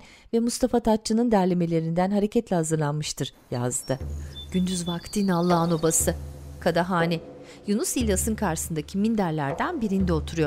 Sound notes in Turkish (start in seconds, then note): 3.4 Kuş cıvıltısı sesi